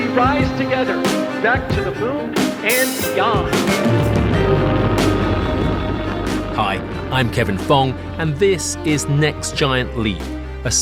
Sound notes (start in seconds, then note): 3.6 rocket rumbles; 3.8 dramatic music